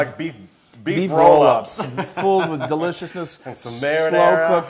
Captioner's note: laugh